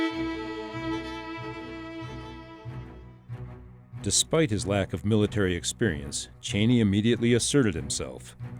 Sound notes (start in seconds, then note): 4.0 voiceover